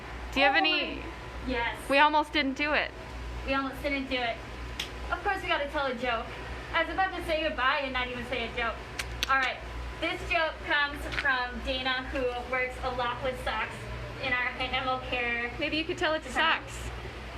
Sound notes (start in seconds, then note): 4.4 claps